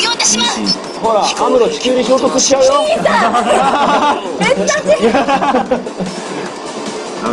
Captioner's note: drone